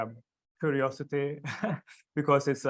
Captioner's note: laughs